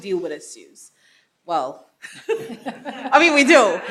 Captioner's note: laughing